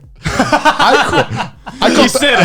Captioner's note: laughing